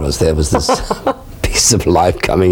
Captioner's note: both laughing